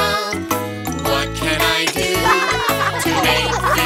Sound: plates chinking

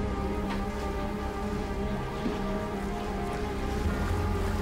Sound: water sploshing

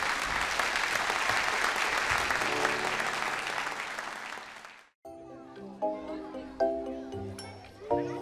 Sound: applause

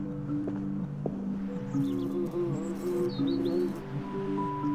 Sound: buzzing

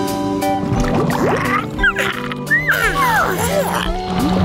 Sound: squeaking

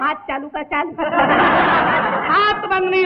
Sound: laughs

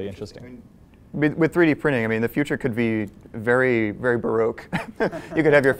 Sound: laugh

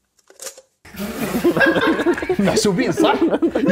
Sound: laughs

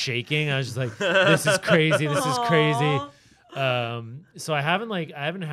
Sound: chuckling

